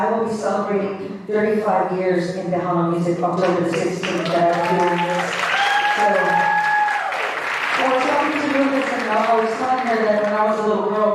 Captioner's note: applause